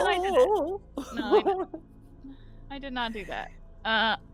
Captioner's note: Cornette laughs